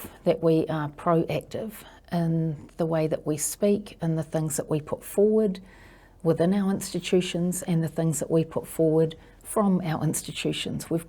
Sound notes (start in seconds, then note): none